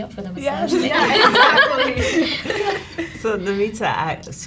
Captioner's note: all laughs